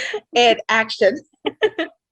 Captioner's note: laugh